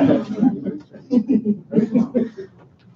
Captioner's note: laughter